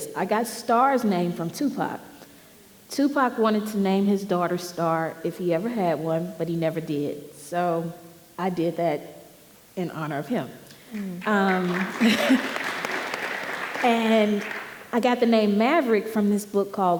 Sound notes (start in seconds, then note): 11.1 audience applauding